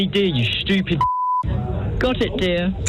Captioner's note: beep